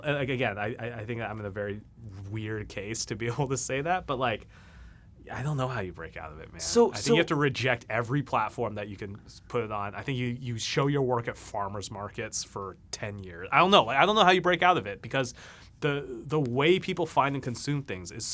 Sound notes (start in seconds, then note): none